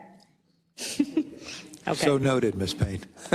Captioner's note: laugh